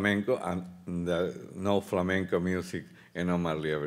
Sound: speaking Spanish; speaking Spanish

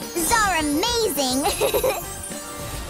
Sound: giggling

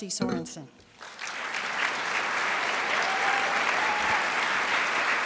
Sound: crowd applauds

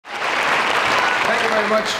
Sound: audience applauding

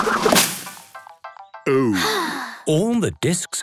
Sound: drum roll; Peppa sighing

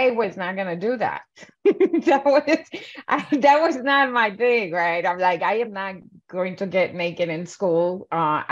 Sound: laughs

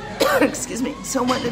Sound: coughs

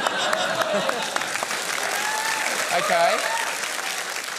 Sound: laughter and applause

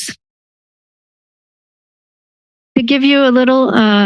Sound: silence

